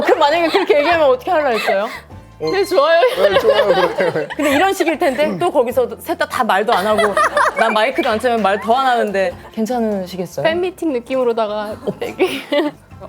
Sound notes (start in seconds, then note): 6.7 Giggles at everything Do Youn says